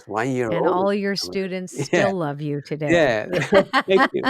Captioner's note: laughs